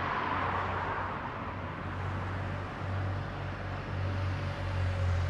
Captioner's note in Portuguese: ruídos de trânsito